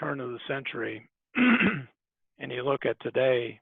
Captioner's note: clears throat